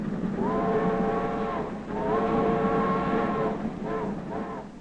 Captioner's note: train whistling